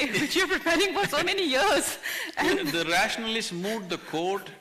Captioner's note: both Laugh